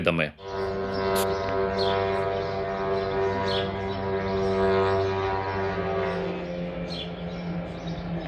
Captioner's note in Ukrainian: звук дрона